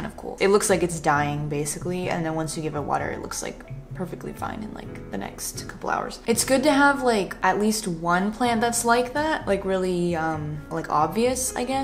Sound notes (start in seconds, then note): none